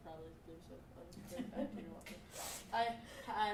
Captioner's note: audience laughing